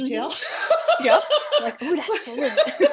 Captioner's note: laughter